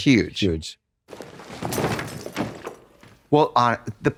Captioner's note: suitcase spills